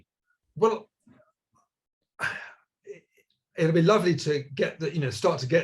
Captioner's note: sighs